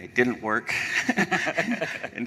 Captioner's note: laughter